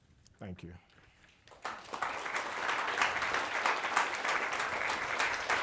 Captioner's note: applause